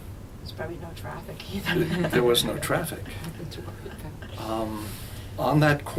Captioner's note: laughs